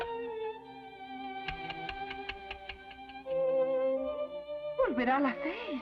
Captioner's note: ticking